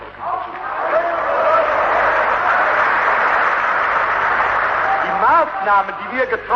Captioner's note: applause